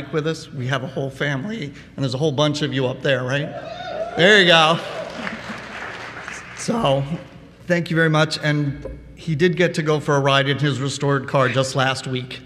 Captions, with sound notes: with us, we have a whole family, and there's a whole bunch of you out there, right? There you go. [Applause] So thank you very much, and he did get to go for a ride in his restored car just last week.